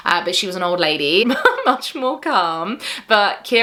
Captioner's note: chuckles